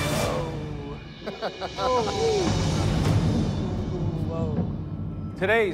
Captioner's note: laughter